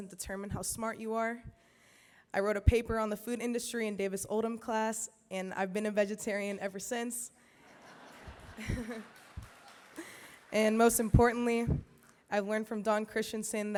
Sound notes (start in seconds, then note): 7.6 laughter